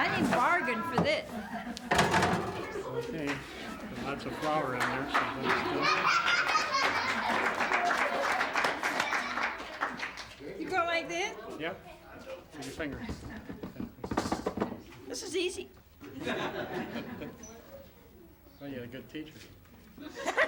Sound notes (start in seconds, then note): 4.7 laughter; 8.1 applause